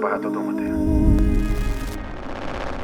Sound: static

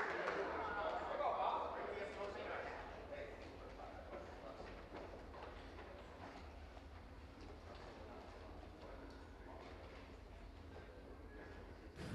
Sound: applause

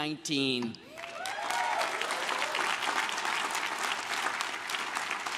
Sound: crowd cheers and claps

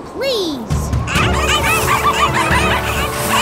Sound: barking

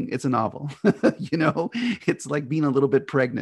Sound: laughs

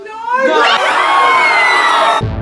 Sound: class screams and yells; slow funky music

